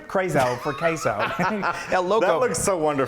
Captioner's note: laughs